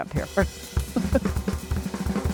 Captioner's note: laughs